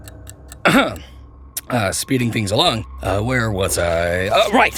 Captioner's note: cough